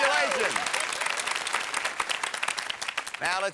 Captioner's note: audience cheers